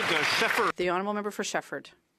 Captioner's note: some Applause